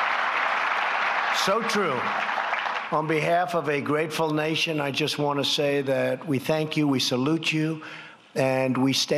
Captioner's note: applause